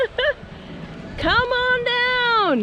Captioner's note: laughter